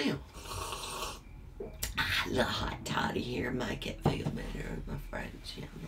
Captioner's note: slurps